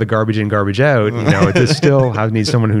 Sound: laughter

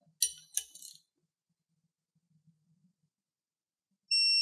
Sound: silence

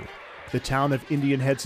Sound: cheers and applause

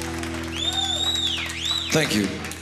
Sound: audience member whistles

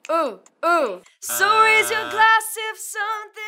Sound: buzzer buzzing

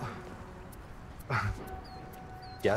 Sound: chuckles

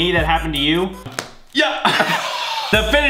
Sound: popping sound; both men laugh

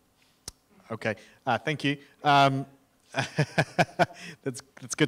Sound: laughs

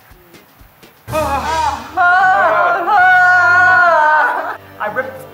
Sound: scary sound

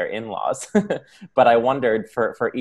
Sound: laughter

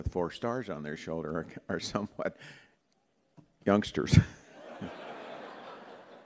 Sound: laughter

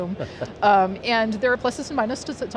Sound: chuckling

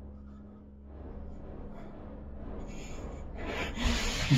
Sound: the breath of anger

